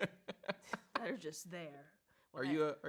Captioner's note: laughs